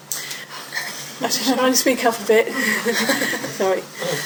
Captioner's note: laughs